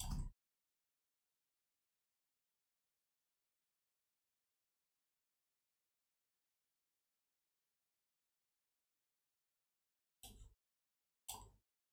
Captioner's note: blank Audio